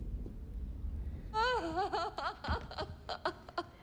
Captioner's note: sobs